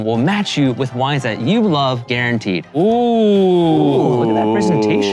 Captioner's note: everyone oohing